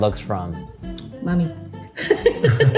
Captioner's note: laughs